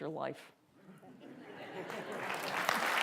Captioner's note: laughter; applause